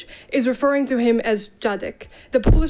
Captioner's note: speaks in Polish